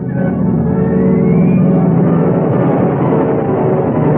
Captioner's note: engines roaring